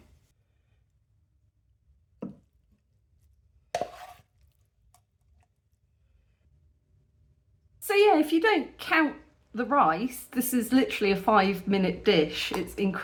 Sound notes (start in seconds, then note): none